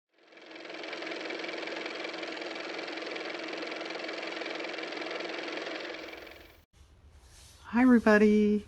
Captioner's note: car motor